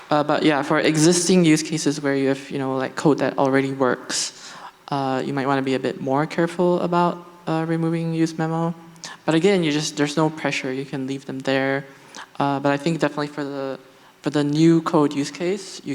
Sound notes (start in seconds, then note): none